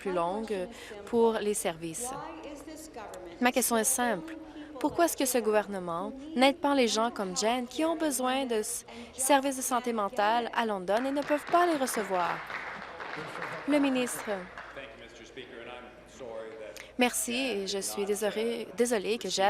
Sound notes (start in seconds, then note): 14.3 applause